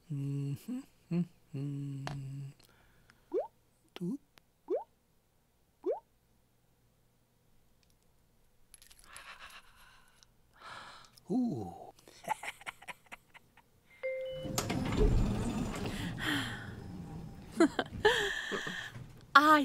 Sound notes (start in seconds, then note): 3.2 plop, plop, plop; 9.1 laughing; 14.0 elevator door opening; 17.4 laughing